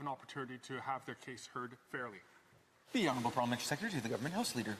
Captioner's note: speaking French